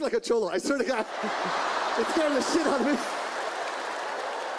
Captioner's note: audience laughs; audience applauds